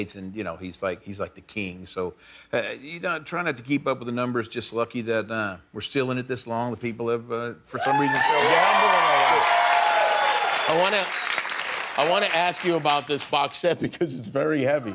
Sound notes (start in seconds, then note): 7.7 cheering